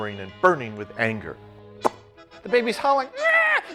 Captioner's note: imitates popping and sobs